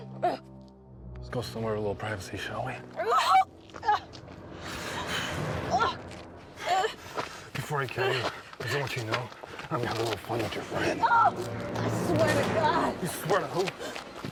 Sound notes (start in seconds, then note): 0.2 Eleanor yelps; 3.0 Eleanor gasps; 5.6 Eleanor yelping